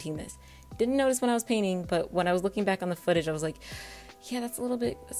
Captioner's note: inhale